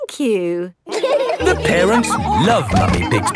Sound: all laughing

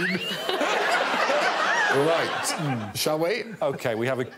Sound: all laughing

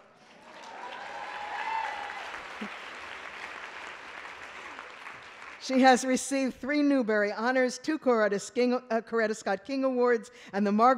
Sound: applause

